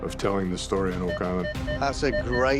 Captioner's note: detector chiming